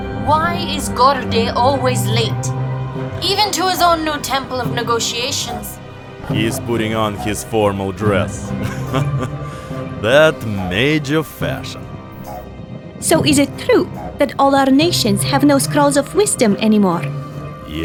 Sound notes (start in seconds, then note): 9.2 chuckles